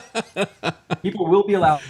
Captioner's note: laughs